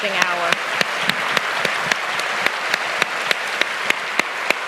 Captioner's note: applause